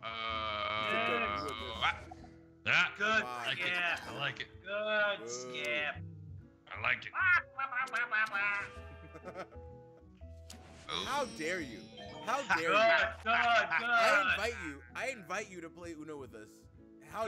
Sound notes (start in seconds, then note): 7.1 laugh